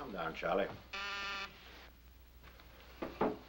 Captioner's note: buzzer